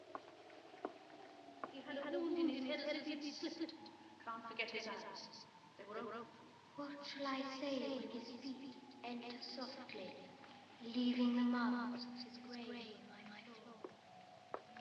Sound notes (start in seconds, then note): 1.4 grose's voice echoing; 6.7 miles's voice echoing